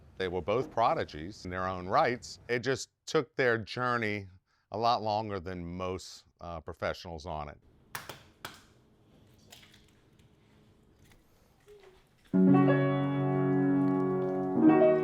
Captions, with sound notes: They were both prodigies in their own rights, it just took their journey a lot longer than most professionals on it. (egg cracks) (calm music)